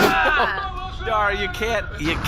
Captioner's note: crashes